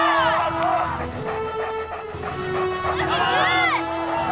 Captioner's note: dogs panting